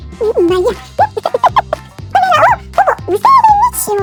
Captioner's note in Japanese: 笑い